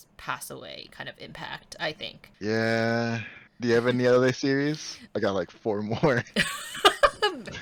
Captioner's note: laughs